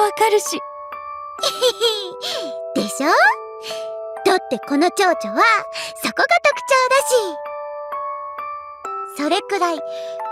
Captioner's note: giggles